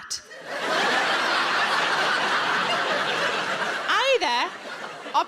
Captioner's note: audience laughing